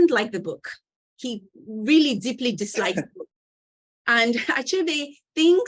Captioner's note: chuckling